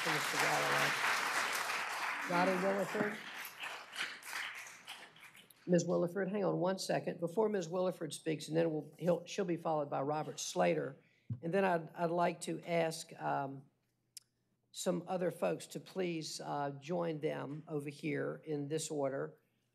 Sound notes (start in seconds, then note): 3.0 applause